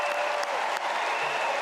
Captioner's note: cheers and applause